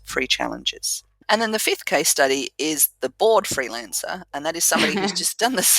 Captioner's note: laugh